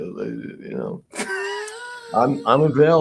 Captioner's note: laughs